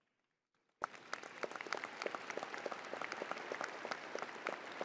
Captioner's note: crowd applauding